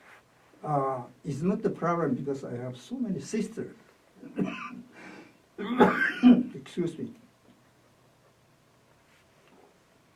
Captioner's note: coughs